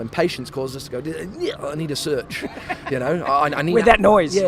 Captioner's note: grunts; laughs